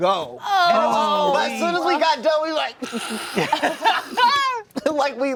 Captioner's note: laughs